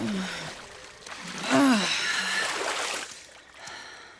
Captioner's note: groaning